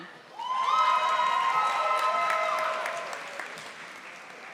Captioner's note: audience applauding